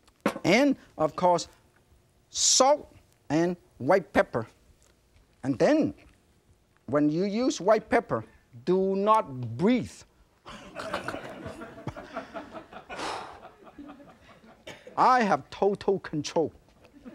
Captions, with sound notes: and of course, salt and white pepper. And then, when you use white pepper, do not breathe. (audience laughing) (chef exhaling) I have total control.